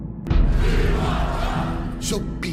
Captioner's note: chanting